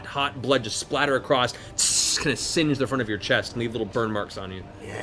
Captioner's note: sizzling